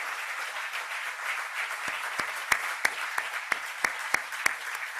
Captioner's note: applause